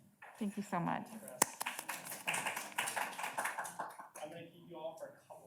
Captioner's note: audience claps